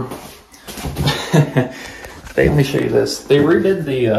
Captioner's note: laughs